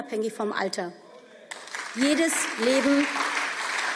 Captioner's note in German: Beifall